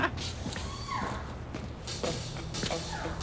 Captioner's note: drill whirring; upbeat music